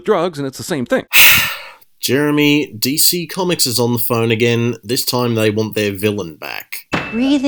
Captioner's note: sigh